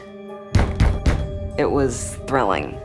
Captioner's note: heavy knocking